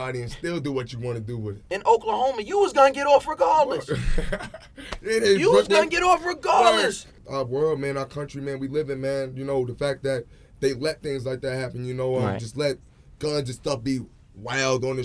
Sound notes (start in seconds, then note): 3.8 laughing